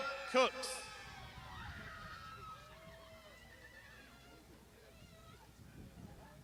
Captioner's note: crowd shouting